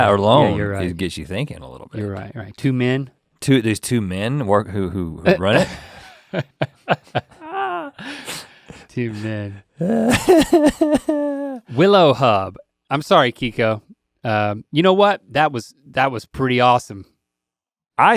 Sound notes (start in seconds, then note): 5.8 Link chuckles; 9.8 Rhett laughs